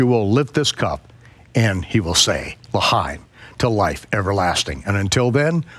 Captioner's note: speaks in foreign language